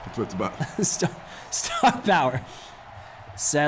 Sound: laugh

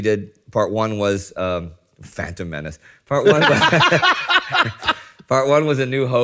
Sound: laughs

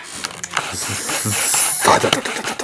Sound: pew pew pew pew pew

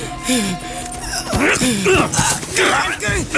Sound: grunts

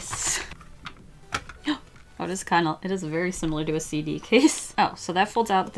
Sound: gasps

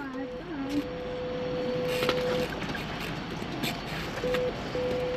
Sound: phone beeping

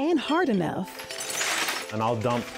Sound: junk pieces clanking

